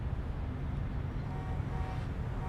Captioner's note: car honking